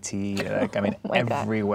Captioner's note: laughing